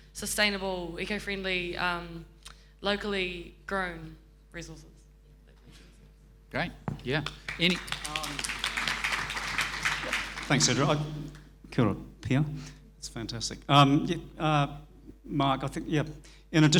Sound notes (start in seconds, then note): 7.1 audience applauding